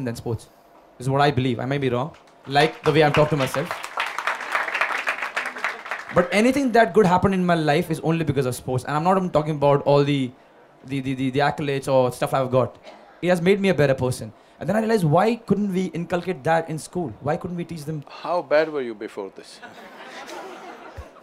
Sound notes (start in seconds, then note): 5.2 applause; 19.5 laughter